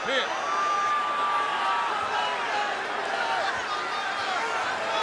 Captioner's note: audience cheering